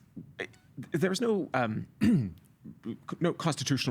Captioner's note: clearing throat